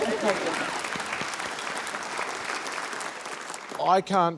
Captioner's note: applause